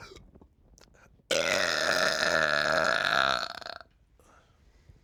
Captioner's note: loud burp